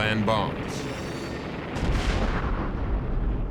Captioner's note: boom